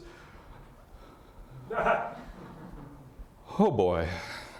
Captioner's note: audience laughter